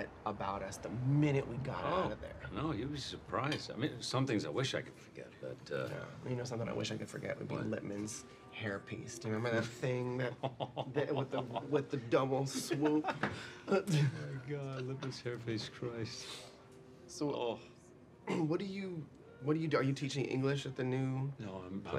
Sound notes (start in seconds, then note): 10.0 Frank laughs